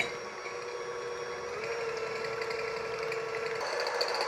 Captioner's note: mixer whirring